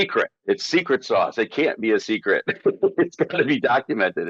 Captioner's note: laughing